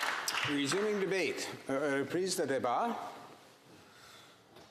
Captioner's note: applause